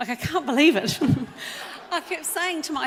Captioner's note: audience laughs